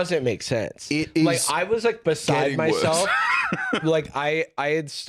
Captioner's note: laughs